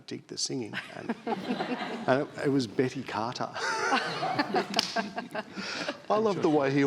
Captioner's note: all laughing